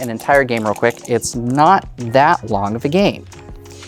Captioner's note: dice rattling, then rolling